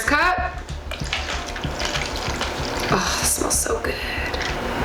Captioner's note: pouring